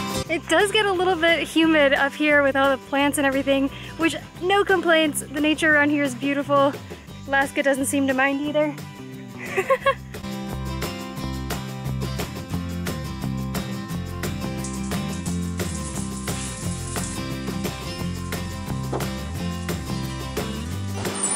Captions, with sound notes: It does get a little bit humid up here with all the plants and everything. Which no complaints, the nature around here is beautiful! Laska doesn't seem to mind either! [Laughter]